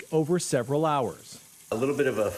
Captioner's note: bottles on counter